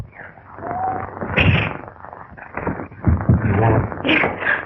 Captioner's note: pounding